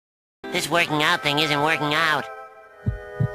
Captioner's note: SpongeBob’s voice